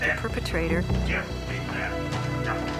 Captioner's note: grunting